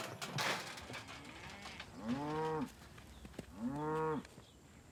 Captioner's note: cows lowing